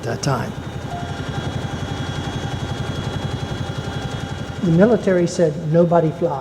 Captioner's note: helicopter blades whirring